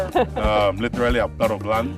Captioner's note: laughter